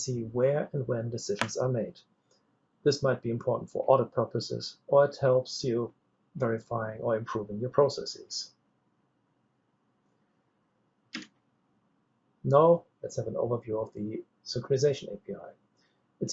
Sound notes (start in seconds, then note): 11.1 keyboard clicks